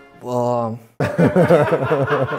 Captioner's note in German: Gelächter